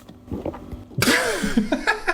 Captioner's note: dog gulps; Dan and Phil laugh